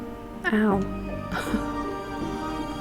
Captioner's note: laughs